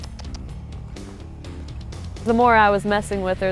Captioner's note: clicks tongue